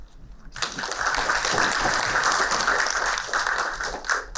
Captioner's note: applauding